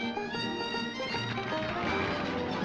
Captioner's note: applause